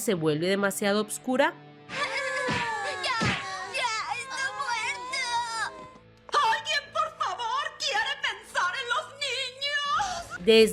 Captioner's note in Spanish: grito